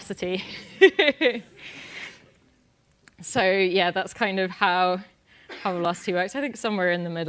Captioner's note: laugh